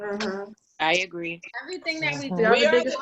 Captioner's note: woman's Voice